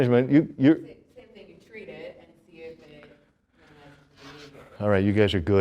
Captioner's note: murmurs